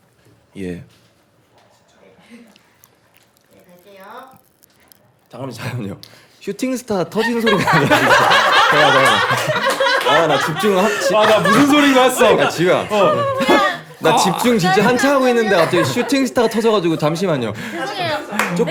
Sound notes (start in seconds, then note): 8.8 burst out laughing at the sound of popping candy